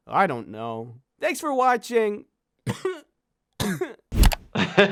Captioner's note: coughs